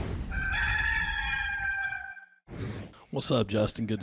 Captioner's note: rooster crowing